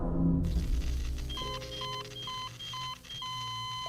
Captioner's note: beeping